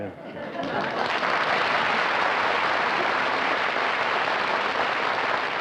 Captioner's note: applause